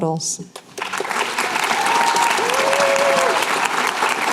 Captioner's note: applause